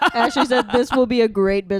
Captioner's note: chuckles